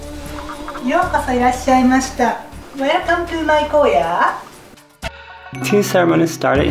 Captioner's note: woman speaking in foreign language